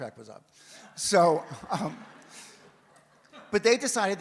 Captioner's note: audience laughs, chuckles